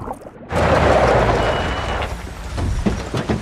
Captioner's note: tires screech